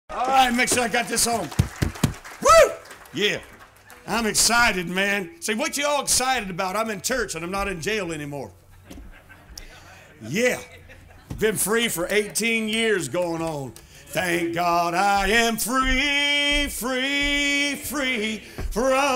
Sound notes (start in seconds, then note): 8.6 laughing